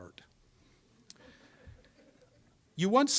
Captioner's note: audience laughing